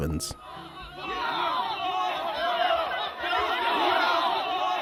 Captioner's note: men chant